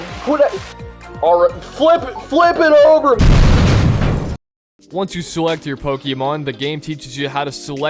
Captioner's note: explodes